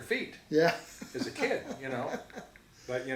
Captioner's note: chuckles